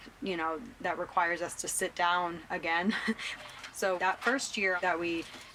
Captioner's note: scoffs